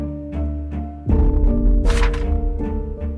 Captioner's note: flipping pages